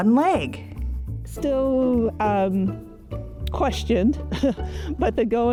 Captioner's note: chuckles